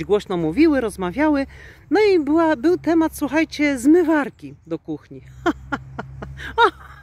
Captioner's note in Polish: śmiech